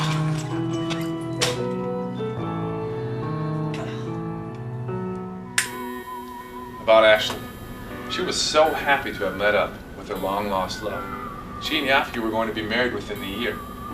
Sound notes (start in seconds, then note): 5.4 finger snap